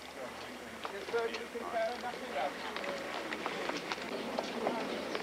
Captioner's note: people chattering